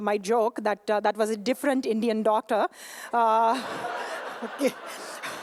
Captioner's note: laughter/applause